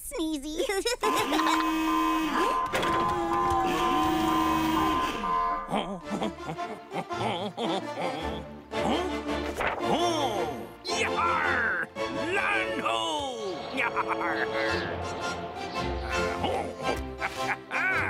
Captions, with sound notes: (laughing) (alarm blaring) Huh? (humming) - Hmm? Ooh! Yee-har! Land ho! (laughing) Oh! Hahaha!